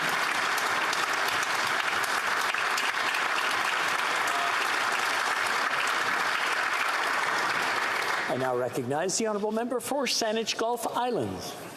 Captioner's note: applause